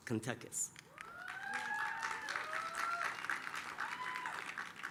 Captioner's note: applause, cheering